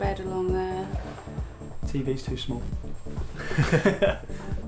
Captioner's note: laughs